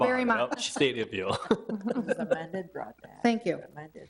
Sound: chuckling

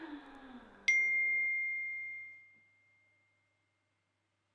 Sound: phone chimes

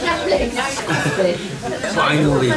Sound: laughing

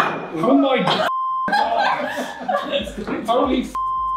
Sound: glass clinks; beep; beep

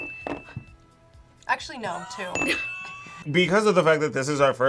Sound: both laugh

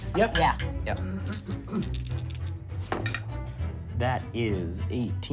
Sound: rolling dice

